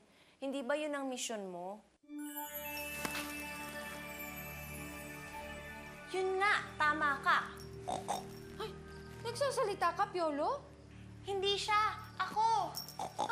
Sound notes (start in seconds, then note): 7.8 snorts; 12.9 snorts